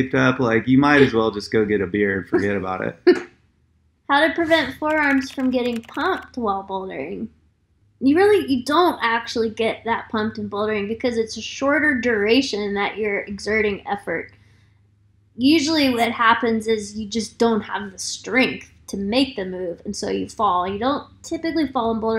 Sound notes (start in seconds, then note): 4.7 keyboard clicking